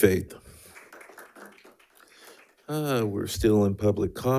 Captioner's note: attendees applauding